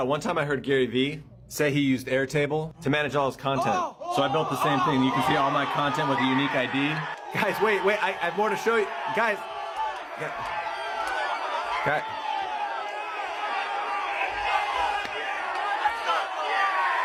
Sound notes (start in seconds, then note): 4.7 crowd shouting; 10.0 crowd cheering